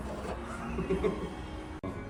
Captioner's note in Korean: 어이없는 웃음ㅋ